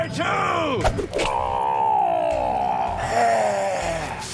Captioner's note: yells; exhales sharply